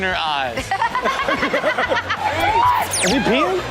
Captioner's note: everyone laughs